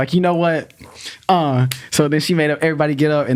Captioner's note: hands clapping